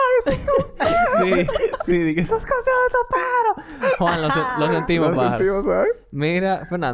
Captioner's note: laughs